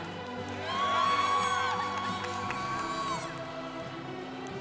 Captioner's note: congregation cheering